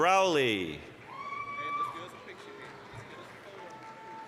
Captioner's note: applause, cheering